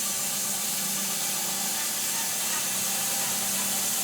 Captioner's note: saw buzzing